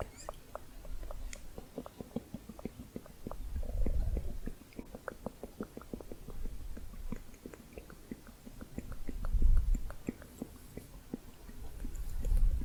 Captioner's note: muffled tongue clicking